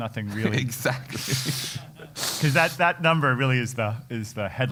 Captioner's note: laugh